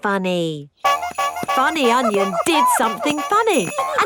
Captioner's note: shoes honking